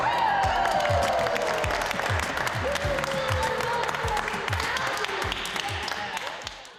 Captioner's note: clapping